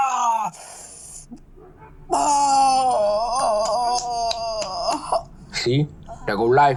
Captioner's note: cracks neck; moaning in pain